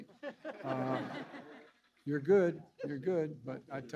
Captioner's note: laughter